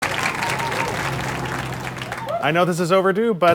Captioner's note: audience applause